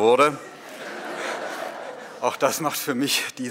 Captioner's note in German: Publikum lacht